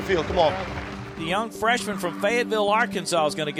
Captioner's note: voiceover